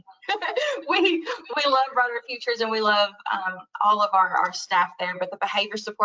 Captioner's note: laughs